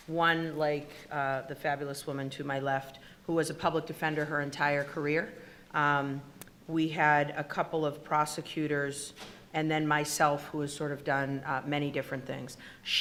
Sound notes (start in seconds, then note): none